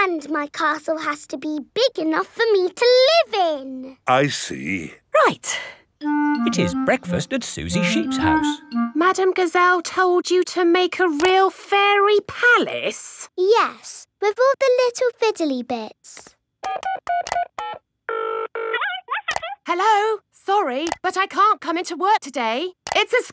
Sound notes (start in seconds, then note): 16.8 dials phone; 18.6 on phone